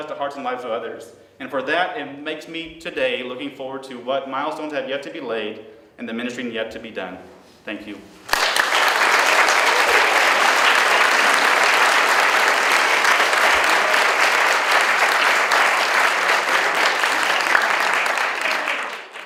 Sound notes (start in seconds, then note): 8.2 audience Applause